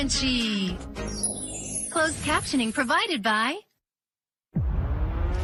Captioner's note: speaks foreign language